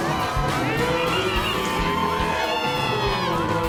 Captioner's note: crowd cheering